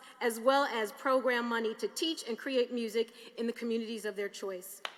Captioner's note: applause